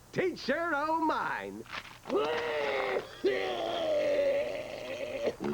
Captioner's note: coughing and barfing